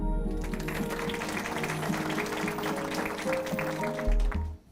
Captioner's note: audience applause